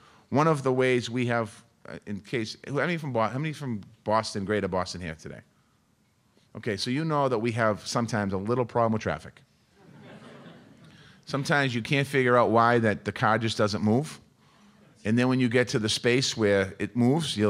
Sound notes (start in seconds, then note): 9.8 audience laughing